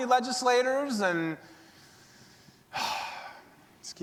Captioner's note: sighs